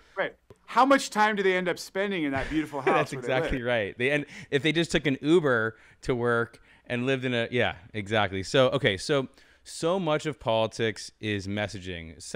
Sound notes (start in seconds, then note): 2.4 laughing